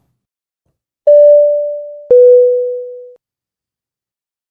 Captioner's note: electronic ding